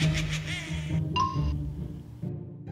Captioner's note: witch laugh; wink sound